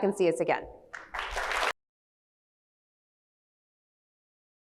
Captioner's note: audience applauds